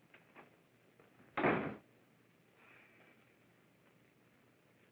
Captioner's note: door slams shut